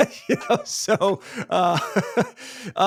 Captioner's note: laughs